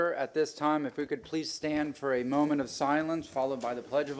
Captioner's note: gavel sounding